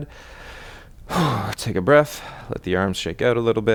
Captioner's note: exhales